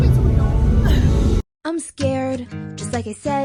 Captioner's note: laughs